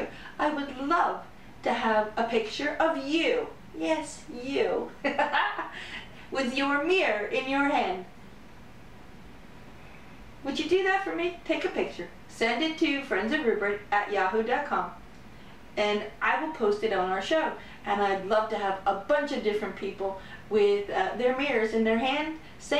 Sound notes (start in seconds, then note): 5.0 laughter